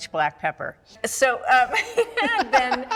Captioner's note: all laugh